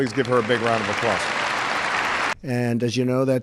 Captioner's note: applause